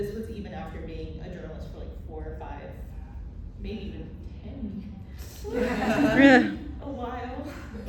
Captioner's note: laughter